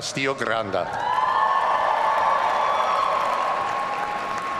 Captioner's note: audience cheering